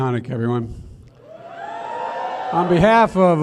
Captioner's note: applause